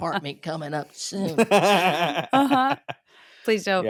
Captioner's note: laughing